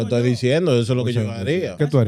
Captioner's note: speaking In Foreign Language